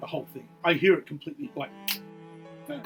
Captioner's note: snaps fingers